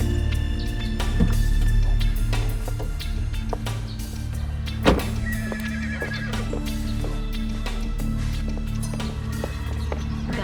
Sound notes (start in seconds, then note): 5.2 horses whinnying